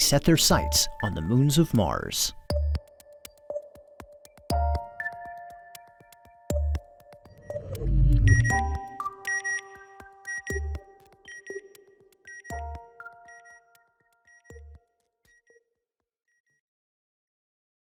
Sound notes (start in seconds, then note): 7.5 satellite beeping